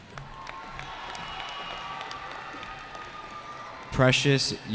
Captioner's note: cheering